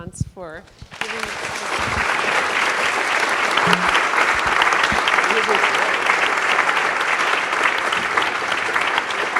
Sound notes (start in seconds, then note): 0.6 drowned out by applause; 0.8 applause